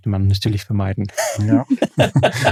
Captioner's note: alle lachen